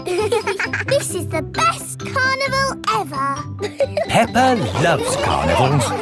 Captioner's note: both giggling